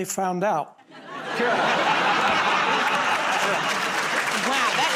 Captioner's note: laughter